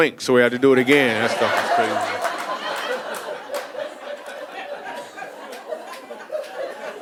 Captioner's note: audience laughing